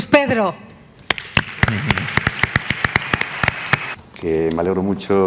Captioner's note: applause